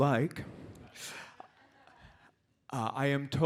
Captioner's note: audience laughs